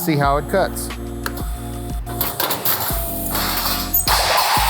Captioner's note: machine whirs